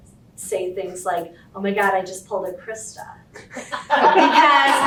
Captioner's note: audience laughter